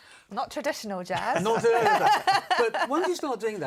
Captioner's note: laughter